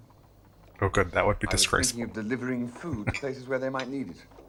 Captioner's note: chuckling